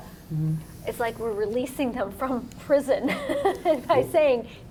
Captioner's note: laughs